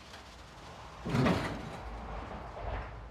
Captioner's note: rattling